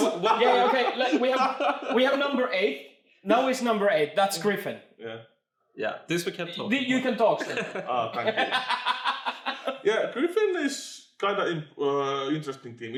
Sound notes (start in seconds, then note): 0.0 laughs; 7.4 laughs